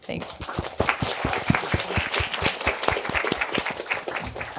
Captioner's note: applause